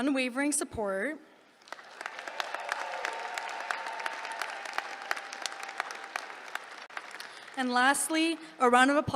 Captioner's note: applause